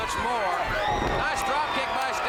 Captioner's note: crowd cheering